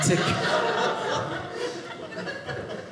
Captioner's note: audience laughing